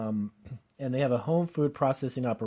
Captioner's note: clears throat